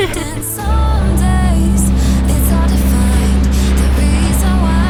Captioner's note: boat motor; upbeat music